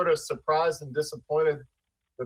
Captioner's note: ~audio distortion~